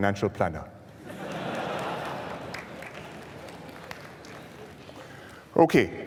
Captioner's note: laughter